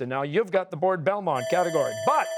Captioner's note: bell ringing